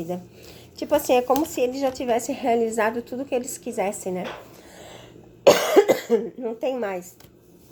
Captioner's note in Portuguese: tosse